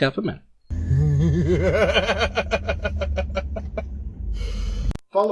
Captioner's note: laughs in alt-right